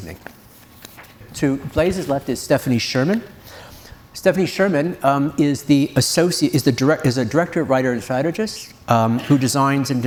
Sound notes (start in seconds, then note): none